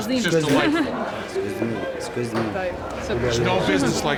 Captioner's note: non-english speech